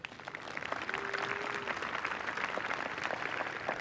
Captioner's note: applause